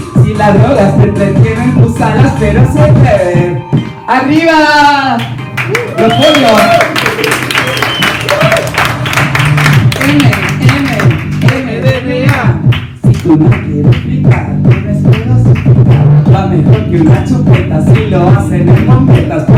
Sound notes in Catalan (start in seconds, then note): 5.5 aplauso; 7.9 techno